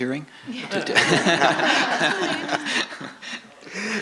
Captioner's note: laughter